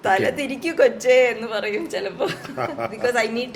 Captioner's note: laughter